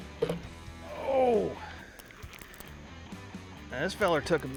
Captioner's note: fishing rod reeling; grunting